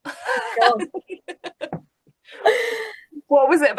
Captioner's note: laughing